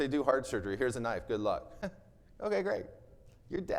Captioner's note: chuckles